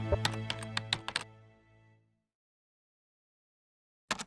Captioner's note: keyboard keys clicking